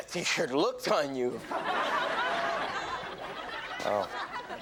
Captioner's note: audience laughs